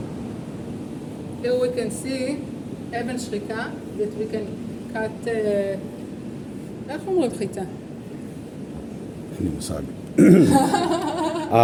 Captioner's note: Hebrew